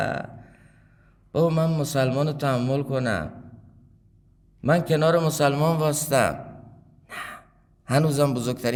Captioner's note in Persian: صدای آه